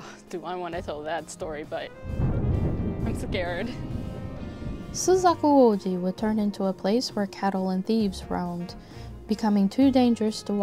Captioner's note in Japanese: 雷の音